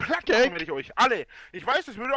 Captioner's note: inhales